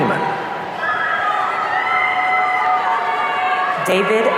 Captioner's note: audience cheering